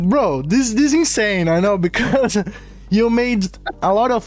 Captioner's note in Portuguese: risos